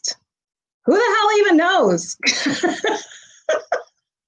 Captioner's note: laughs